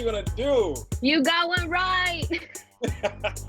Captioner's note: laughs